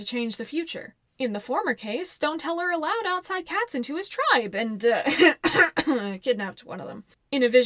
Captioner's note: cough cough cough